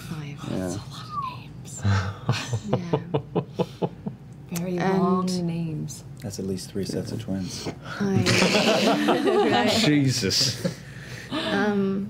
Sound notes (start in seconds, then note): 8.2 laughter